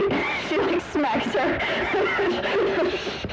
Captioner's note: wheeze; wheezing